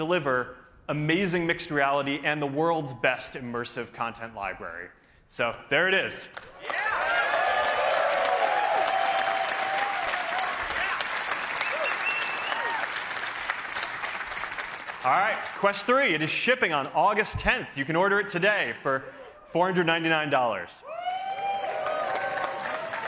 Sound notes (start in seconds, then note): 8.8 cheers and applause